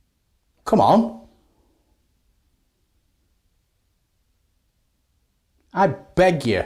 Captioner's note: silence